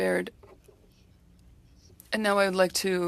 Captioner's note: speaking French